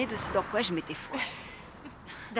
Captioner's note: Stephanie laughs